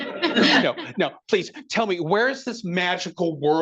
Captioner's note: attendees laughing